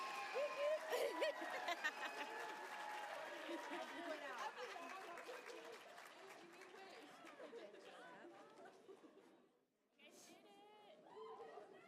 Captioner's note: applause